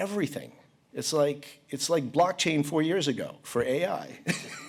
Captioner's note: laughs